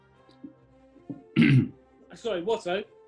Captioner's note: clears throat